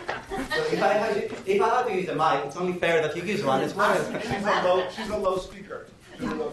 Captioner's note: professor speaking